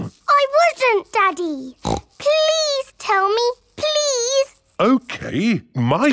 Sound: snorts

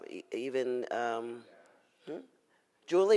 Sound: audience member murmurs

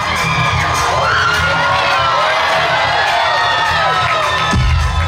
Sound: crowd cheering

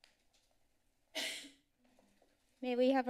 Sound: coughs

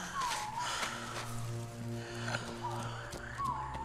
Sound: breathes heavily

